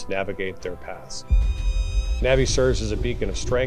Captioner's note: falcon caws